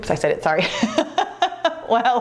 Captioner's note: laughs